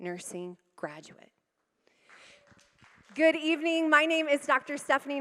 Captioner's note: applause